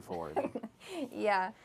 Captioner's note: laughs